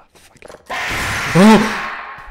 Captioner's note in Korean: 비명소리